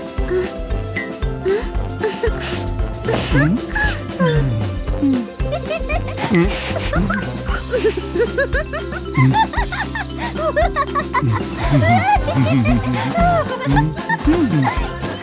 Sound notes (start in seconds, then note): 3.0 giggles; 3.1 chuckles; 3.9 sighs dreamily; 6.2 BROWN whimpers; 7.1 giggling; 8.1 laughing; 10.2 laughing continues; 10.7 BROWN chuckles